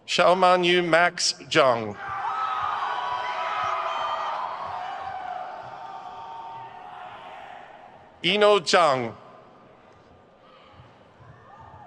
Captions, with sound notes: Xiaomanyu Max Zhang. (crowd cheers) Yinuo Zhang.